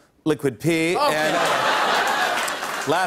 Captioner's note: laughter and applause